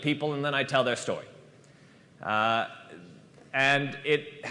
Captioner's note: none